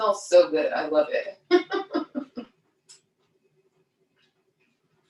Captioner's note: laughs